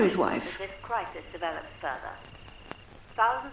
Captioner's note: radio Announcer